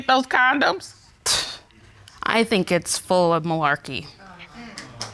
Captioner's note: scoffs